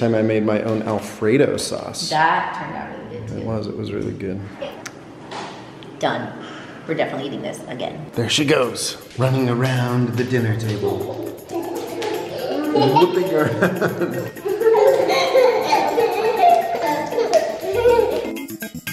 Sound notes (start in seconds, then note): 11.0 playful music; 16.0 laughs